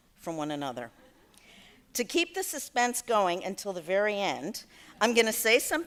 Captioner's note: laughter